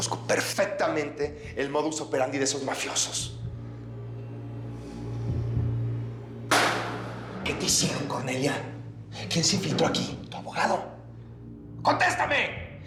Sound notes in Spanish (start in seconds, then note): 6.5 golpea la mesa